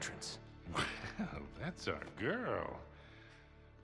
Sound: laughing

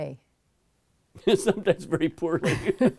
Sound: laughs

